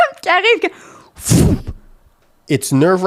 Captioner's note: in french; hug sound